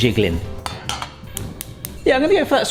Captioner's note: gas hob clicking